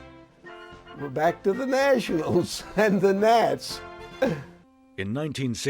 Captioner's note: laughing